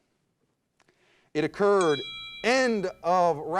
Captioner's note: bell dings